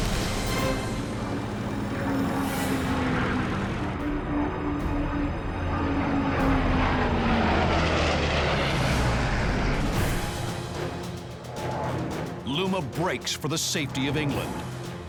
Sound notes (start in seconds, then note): 3.9 solemn music plays; 6.4 engine roaring; 9.9 dramatic music plays